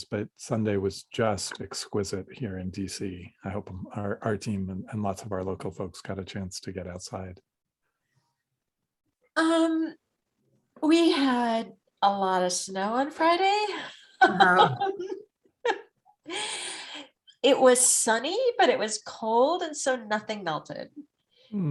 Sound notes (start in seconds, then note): 14.2 laughs